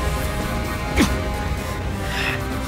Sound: Hwoarang moans and grunts

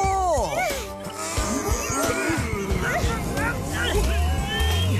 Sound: all Groaning

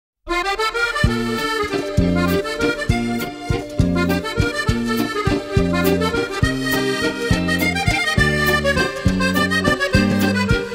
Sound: epic BAGUETTE bonjour sound

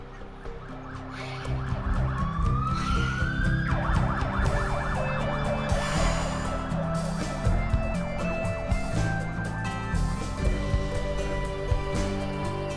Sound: ambulance siren; upbeat, hopeful music

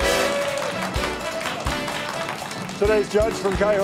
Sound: audience clapping

